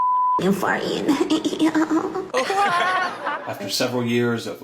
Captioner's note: cameraperson giggles